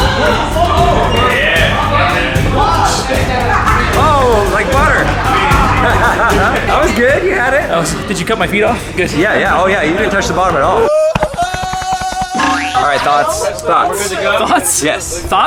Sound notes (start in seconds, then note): 6.2 laughing; 11.0 Tarzan yell